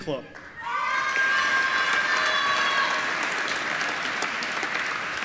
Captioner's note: applause